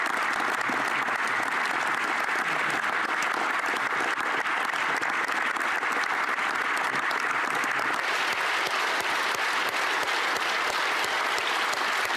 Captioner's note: applause